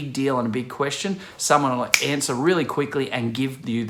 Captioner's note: clicks